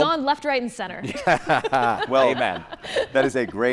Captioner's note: laughs